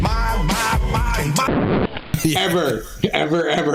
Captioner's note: record scratching; laughter